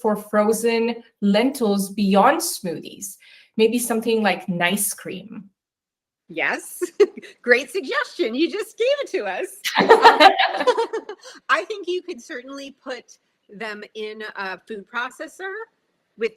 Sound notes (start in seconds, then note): 6.7 chuckles; 9.6 both laughing